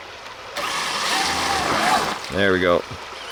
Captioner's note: engine roaring